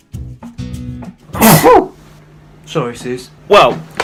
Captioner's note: sneezes